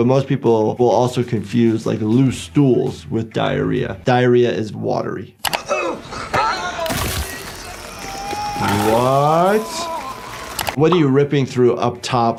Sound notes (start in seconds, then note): 5.1 victim grunting; 6.8 flesh tearing